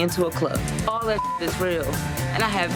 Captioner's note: beep